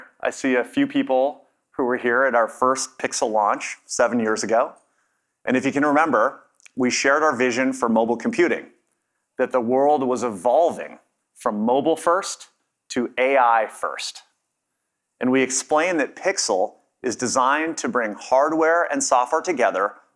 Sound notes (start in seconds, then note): none